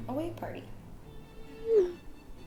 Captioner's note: text sent notification